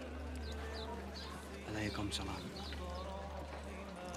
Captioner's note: speaks in arabic